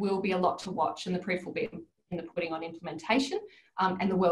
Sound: audio distorts

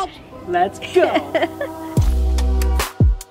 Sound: chuckles; smooth music

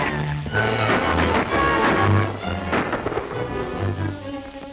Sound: gun shots

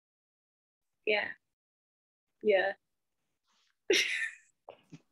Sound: chuckles

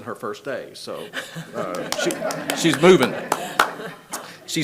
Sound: people laugh

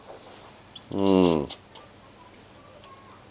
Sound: slurps noodles

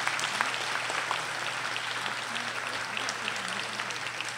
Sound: audience applauding

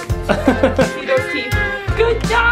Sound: laughing

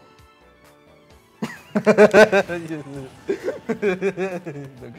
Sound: Leo laughing

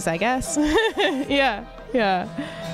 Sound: laughs

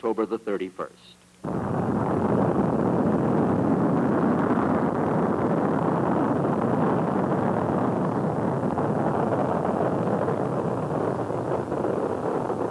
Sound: rocket engine roar

